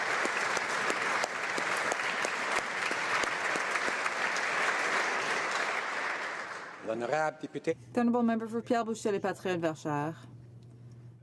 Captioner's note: applause